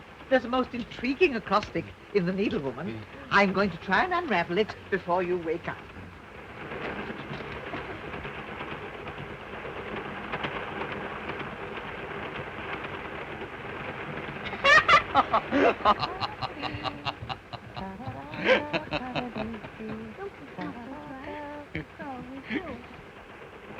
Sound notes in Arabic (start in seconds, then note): 6.8 صوت خشخشة القطار; 14.4 يضحك الطفل; 16.2 الرجل يضحك; 19.4 تتمتم الآنسة فروي